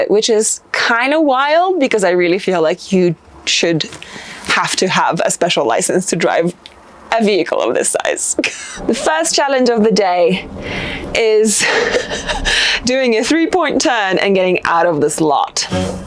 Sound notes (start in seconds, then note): 8.4 laughing; 11.5 laughing